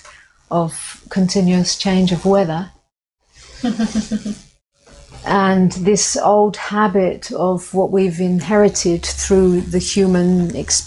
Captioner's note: laughter